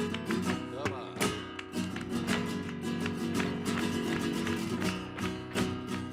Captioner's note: man speaking in a foreign language; heels rhythmically clicking